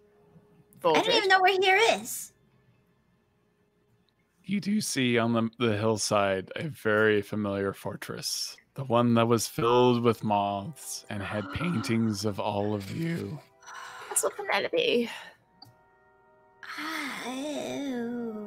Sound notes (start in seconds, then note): 13.6 gasps